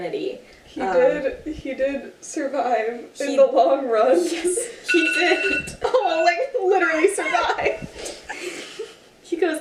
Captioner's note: alarm goes off